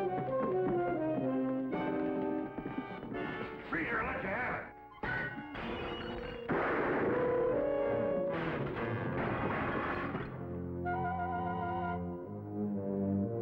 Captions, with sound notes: - Freeze or I'll let you have it! (glass shattering) (gun firing) (wood clattering)